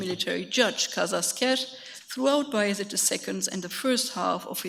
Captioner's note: speaks in a foreign language